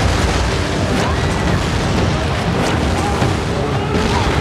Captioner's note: screams